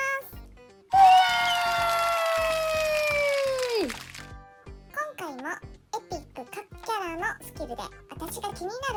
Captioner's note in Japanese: 大歓声